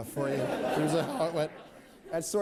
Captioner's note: laughter